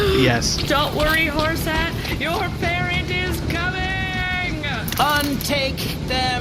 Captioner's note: screaming and running off